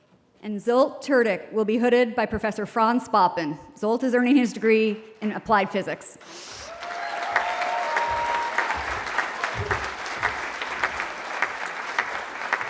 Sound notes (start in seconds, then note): 6.6 cheering